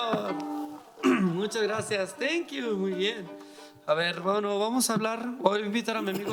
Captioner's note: speaking in foreign language